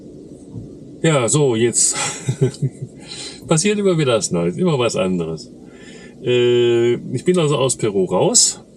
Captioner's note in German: gelächter